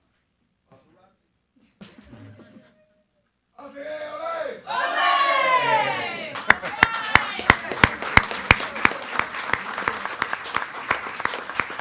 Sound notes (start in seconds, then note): 3.9 man cheering; 4.6 attendees cheering; 6.9 attendees clapping and cheering